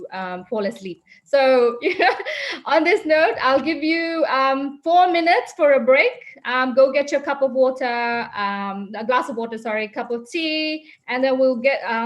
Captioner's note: chuckling